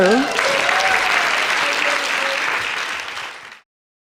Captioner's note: audience clapping